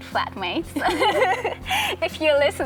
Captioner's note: laughs